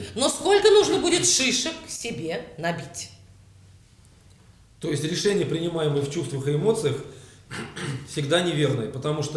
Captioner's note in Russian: кашляет